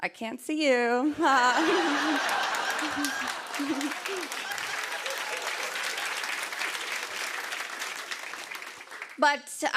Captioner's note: laughter and applause